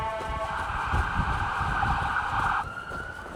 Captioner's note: wind blowing